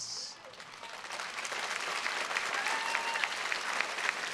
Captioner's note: audience applauding